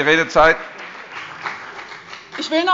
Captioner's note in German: Beifall bei der CDU und dem BÜNDNIS 90/DIE GRÜNEN